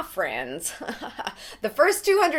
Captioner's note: chuckles